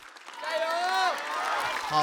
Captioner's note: cheering